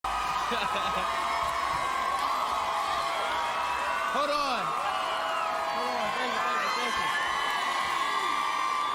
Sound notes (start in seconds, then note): 0.5 cheering continues; 0.9 laughs